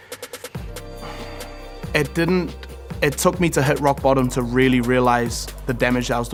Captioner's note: sighs